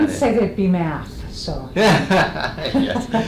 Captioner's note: laughs